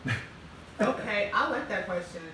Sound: laughing

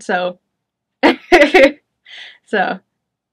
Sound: chuckles

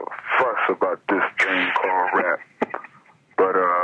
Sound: chuckling

